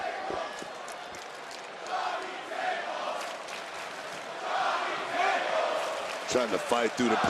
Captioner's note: crowd chants, "johnny table"